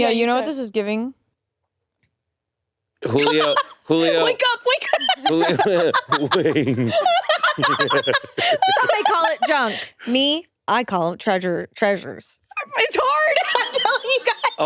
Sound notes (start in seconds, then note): 4.6 both laughing